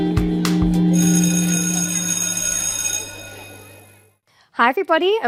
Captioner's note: school bell ringing